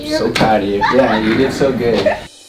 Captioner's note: patient laughs